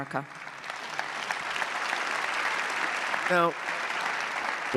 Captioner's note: audience clapping